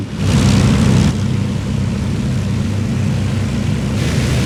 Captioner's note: aircraft engine